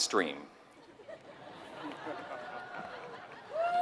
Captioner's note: laugh; applause